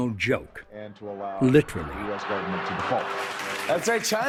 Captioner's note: audience laughing